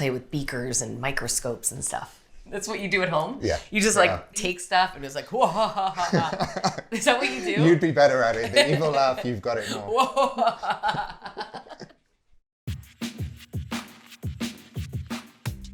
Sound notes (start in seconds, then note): 5.4 laughing; 9.6 laughs; 12.6 upbeat music